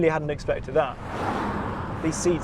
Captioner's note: car roaring